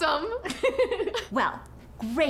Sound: giggling

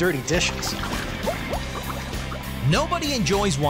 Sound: bubbling

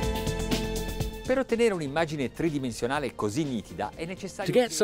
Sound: speaking in a foreign language

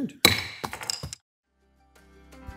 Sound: gavel bangs; soft upbeat music

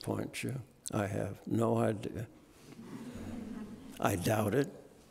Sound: audience laughing

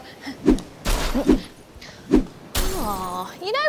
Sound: crashing

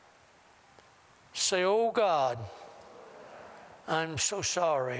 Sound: audience repeats prayer throughout

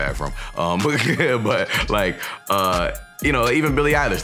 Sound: laughing

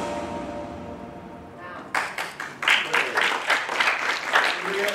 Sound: audience applauding

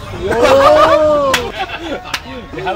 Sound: claps

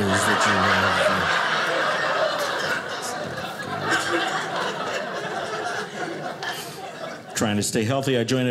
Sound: audience laughing

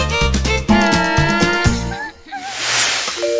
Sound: laught

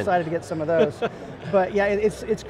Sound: laughing

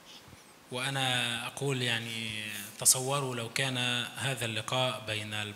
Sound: speaks in foreign language

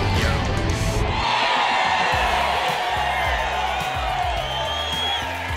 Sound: crowd cheering

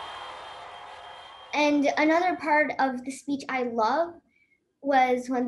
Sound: cheers and Applause

